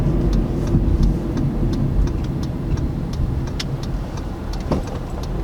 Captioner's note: turn signal clicking